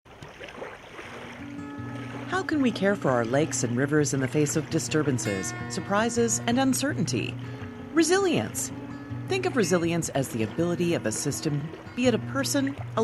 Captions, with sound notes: (Lapping water and calming music) How can we care for our lakes and rivers in the face of disturbances, surprises and uncertainty? Resilience! Think of resilience as the ability of a system--be it a person,